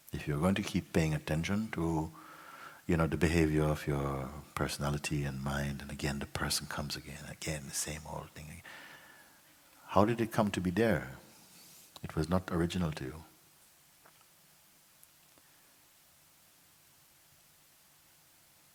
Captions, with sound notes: If you're going to keep paying attention to the behaviour of your personality and mind, and again the person comes, and again the same old thing. How did it come to be there? It was not original to you. [silence]